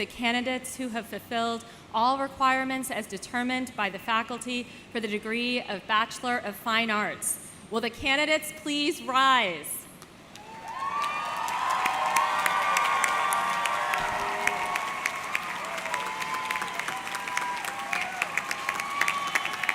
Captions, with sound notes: the candidates who have fulfilled all requirements as determined by the faculty for the degree of Bachelor of Fine Arts. Will the candidates please rise. (audience cheering) (audience clapping)